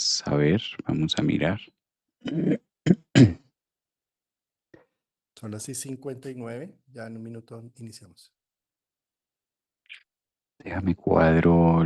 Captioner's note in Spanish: carraspeo